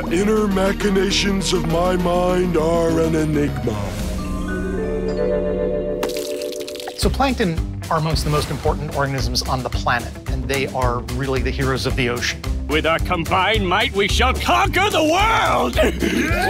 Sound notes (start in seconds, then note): 4.5 dreamy music; 4.5 milk splashing